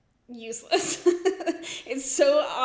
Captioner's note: laughs